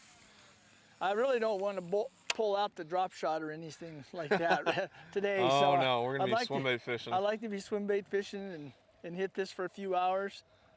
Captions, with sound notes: I really do not want to pull out the drop shot or anything like that [laughter] oh no we are going to be swim bait fishing we will be swim bait fishing and hit this for a few hours